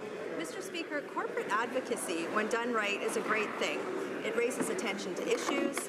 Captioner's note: applause